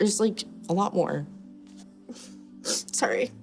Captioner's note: sobs quietly